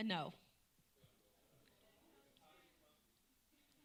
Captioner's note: talking in background